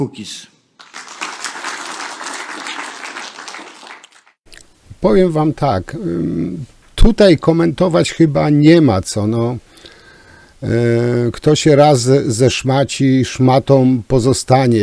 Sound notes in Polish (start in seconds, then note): 3.8 Aplauz